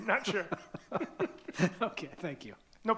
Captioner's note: laughing